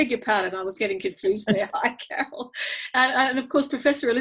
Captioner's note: laughing